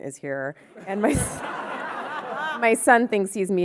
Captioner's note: audience laughing